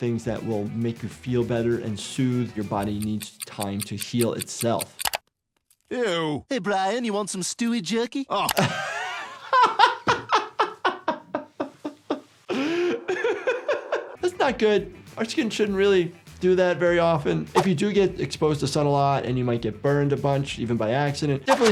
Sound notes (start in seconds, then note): 8.4 laughing